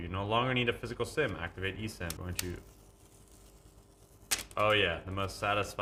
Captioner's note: plastic wrap clicks